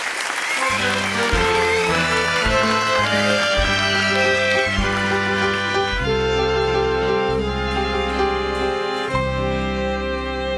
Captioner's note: ambulance siren